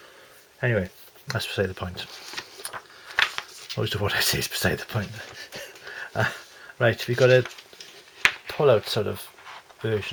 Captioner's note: ha ha